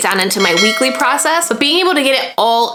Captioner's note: bell ringing